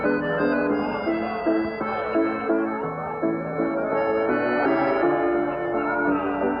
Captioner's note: humming